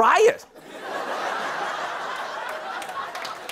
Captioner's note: laughter